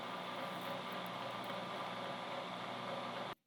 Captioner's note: machine whirs